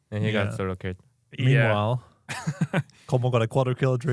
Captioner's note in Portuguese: risos